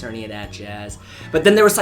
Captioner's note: takes in huge amounts of air